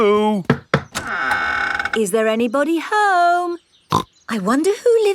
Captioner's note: door creaks; snorts